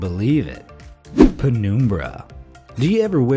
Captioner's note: graphic whooshing